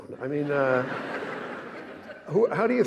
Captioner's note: audience laughing